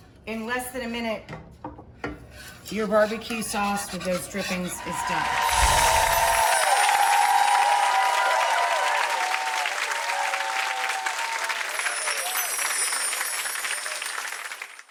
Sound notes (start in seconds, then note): 4.7 crowd cheering; 5.4 bright chimes